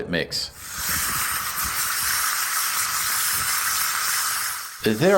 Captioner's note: sizzle